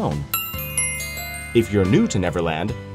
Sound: tink Bells

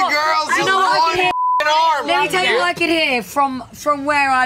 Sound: beep

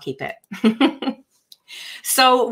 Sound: chuckles

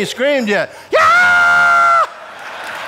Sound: screams; audience laughs

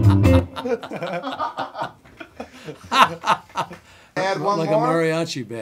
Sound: laughing

